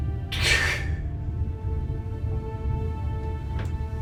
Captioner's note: crying